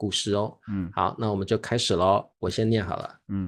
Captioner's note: soft tone